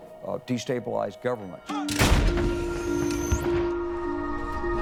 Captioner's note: weapon fires